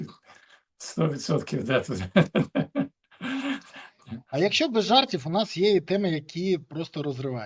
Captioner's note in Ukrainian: сміх